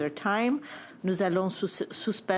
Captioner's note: speaking French